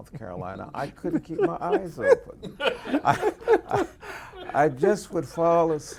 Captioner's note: laughing